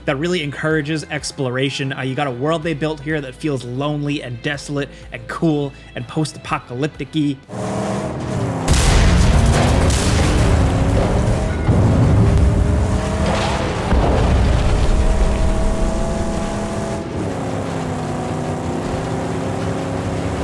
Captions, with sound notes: that really encourages exploration. You got a world they built here that feels lonely and desolate and cool, and post-apocalypticy. (engines revving) (vehicle explodes) (engine roaring)